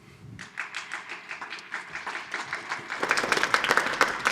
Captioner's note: applause